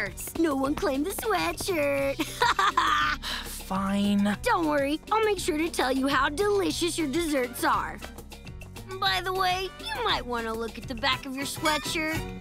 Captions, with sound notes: No one claimed the sweatshirt. [laughs] [sighs] Fine. Don't worry, I'll make sure to tell you how delicious your desserts are. By the way, you might wanna look at the back of your sweatshirt.